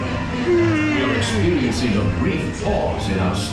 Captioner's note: yawns